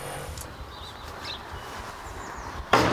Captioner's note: birds chirping